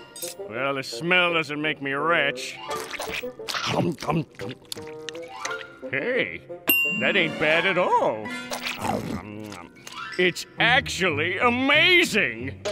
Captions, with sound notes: Well, the smell doesn't make me wretch. [munching] Hey, that ain't bad at all. It's actually amazing.